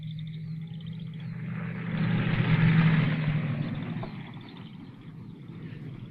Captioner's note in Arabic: هدير المحرك